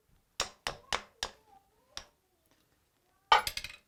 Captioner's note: tapping